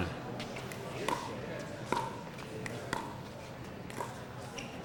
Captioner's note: ball clacking